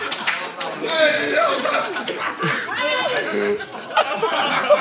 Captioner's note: Sidemen laugh